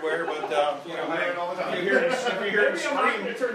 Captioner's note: laughter